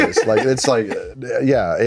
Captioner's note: laughs